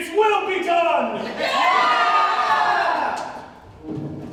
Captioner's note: ensemble cheering